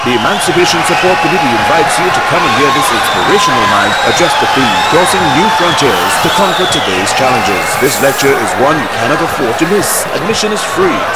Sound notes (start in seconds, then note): 0.0 wild applause and cheering for 22 seconds